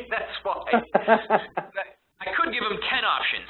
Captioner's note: both laughing